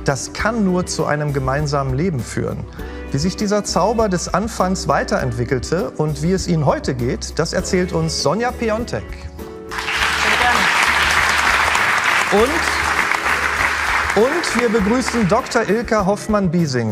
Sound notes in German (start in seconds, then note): 9.7 Applaus